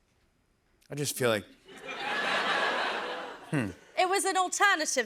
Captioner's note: laughter